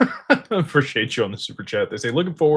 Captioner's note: laughter